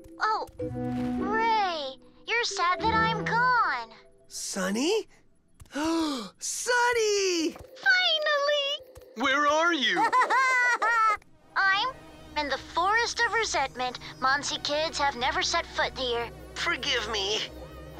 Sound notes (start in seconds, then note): 5.7 gasp; 9.9 Sunny laughs